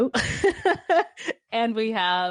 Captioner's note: laughs